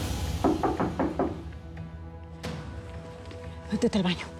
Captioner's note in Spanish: toques en la puerta